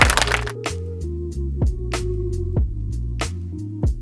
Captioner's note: audience applause